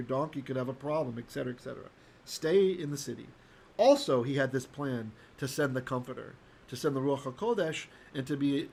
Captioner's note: Hebrew